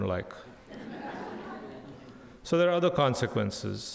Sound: crowd laughing

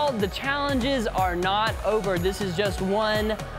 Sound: none

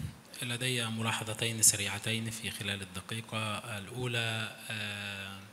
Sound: speaks in foreign language

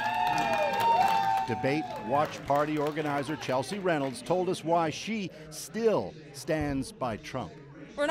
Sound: cheers and Applause

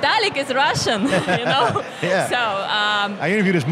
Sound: laughs

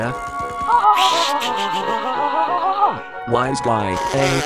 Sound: laughing

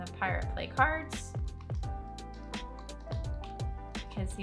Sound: typing sounds

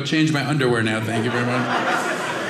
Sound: audience laughing

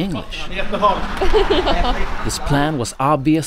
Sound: laughs

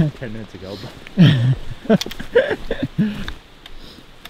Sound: laughs

